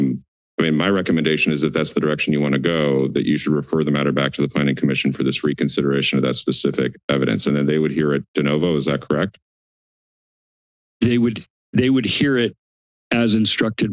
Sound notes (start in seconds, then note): 9.9 silence